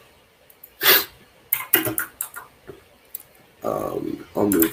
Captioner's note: sniffs